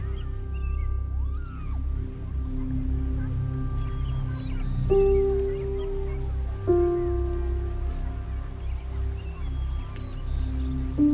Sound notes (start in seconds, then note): 0.8 birds chirping; 2.8 mellow music